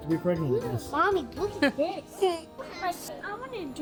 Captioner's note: chuckles